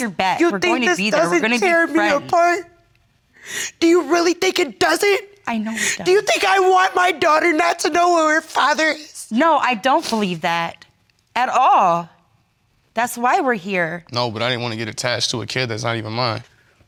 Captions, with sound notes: we're gonna be there... You think this doesn't tear me apart? (CRYING) Do you really think it doesn't? I know it does... Do you think I want my daughter not to know who her father is? No, I don't believe that... At all. That's why we're here. No, but I ain't wanna get attached to a kid that's not even mine.